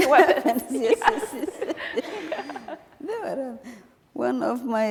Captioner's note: laughing